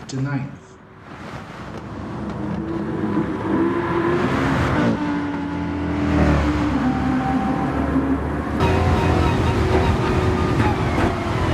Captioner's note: engines revving, cars noises, rain